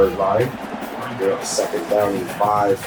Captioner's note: crowd Noises